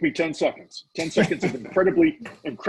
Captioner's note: laughing